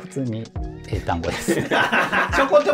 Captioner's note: laughing